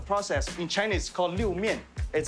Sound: speaking Chinese language

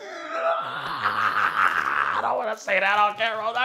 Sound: laughing

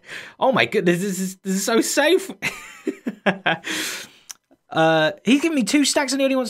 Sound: chuckles

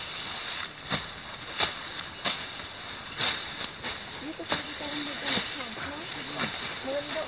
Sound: machete cutting vegetation

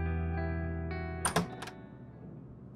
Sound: door opens

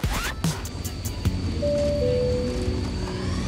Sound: record scratches; in-flight button pings

